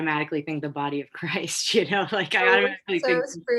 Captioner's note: laughs